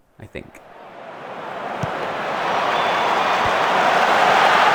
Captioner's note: crowd cheers